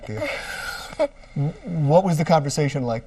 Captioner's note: laughs